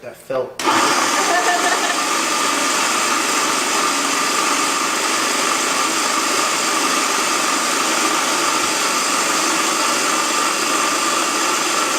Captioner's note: loud food processor noise